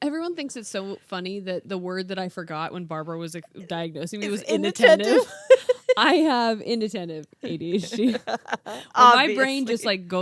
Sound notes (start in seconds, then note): 5.8 laughing